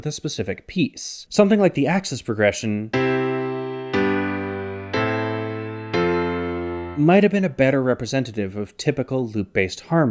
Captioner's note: bang